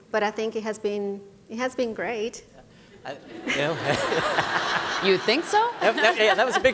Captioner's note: laughter